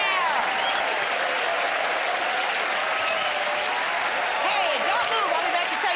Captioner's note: cheers and applause